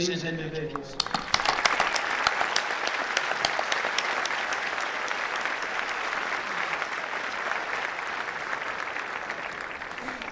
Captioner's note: applause